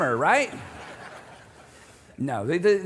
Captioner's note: audience laughing